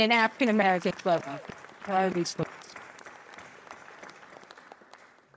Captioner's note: applause